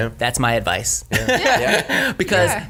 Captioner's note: everyone laughs